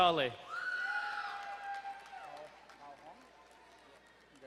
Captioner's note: crowd cheering